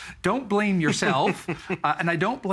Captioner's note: laughing